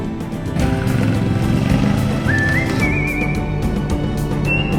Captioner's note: motorbike roaring; upbeat music